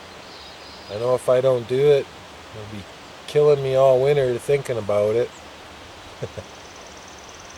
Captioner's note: ha ha